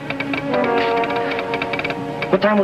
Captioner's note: telegraph tapping